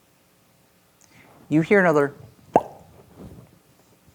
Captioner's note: pops loudly